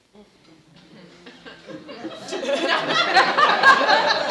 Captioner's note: laughing